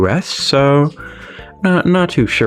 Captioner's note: inhales Oxygen